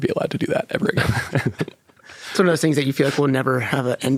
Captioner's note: laughing